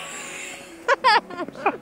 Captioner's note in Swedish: Skratt